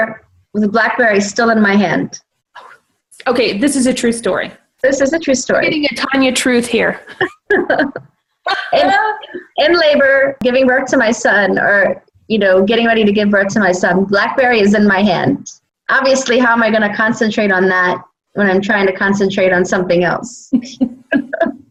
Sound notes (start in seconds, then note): 7.1 they both laugh